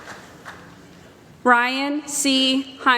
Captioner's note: applause